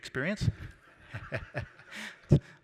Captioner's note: laughter